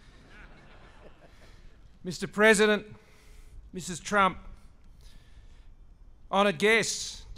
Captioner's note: laughter